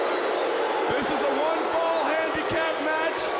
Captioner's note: crowd chatter